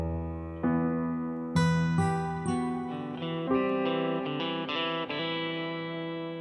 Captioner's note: none